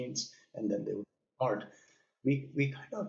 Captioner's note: audio cutting out